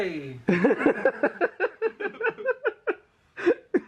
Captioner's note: laughs